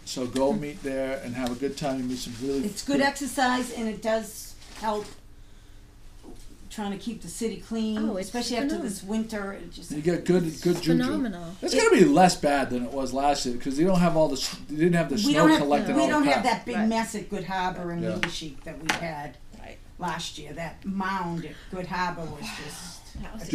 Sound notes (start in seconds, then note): 0.2 voiceover; 10.0 voiceover; 16.4 voiceover